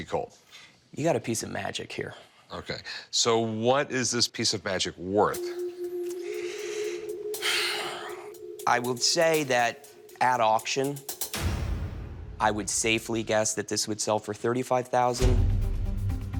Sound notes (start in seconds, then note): 7.3 sighs